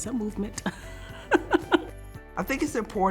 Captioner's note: laughs